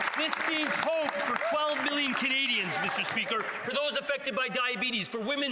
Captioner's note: some Applause